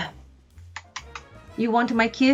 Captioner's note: kissing sounds